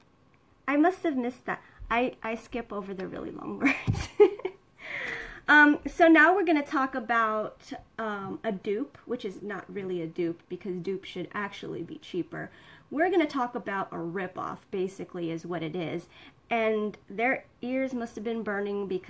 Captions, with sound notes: I must've missed that. I skip over the really long words (laughs). So now we're gonna talk about, a dupe. Which is not really a dupe because a dupe should actually be cheaper. We're gonna talk about a rip off basically is what it is. And their ears must've been burning